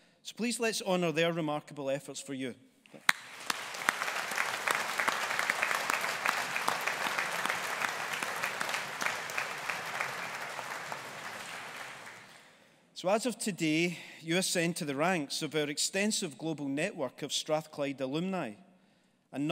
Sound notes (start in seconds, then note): 2.9 audience applauding